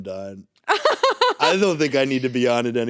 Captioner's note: laughs